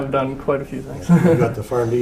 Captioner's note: laugh